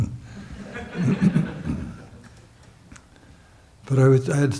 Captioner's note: audience chuckles